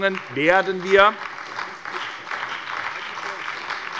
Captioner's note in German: Beifall bei der SPD und der FDP